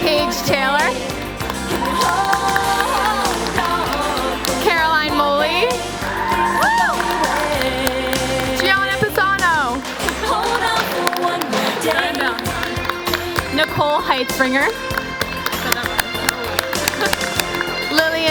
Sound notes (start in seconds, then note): 7.7 applause; 14.6 applause